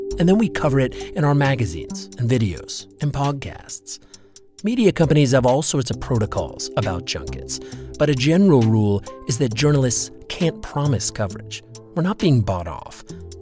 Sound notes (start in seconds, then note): none